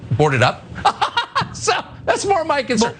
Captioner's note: laugh